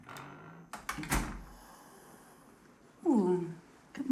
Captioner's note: door shuts